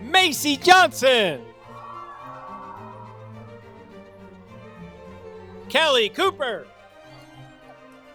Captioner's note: applause